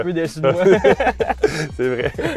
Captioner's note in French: rires